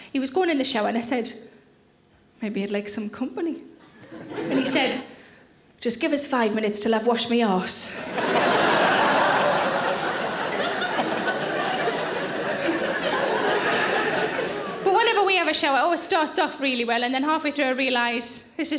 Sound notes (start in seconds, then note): 8.0 audience laughing